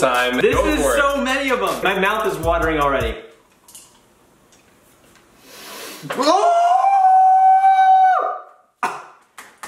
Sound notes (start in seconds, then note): 5.4 sharply inhales; 6.1 howls in pain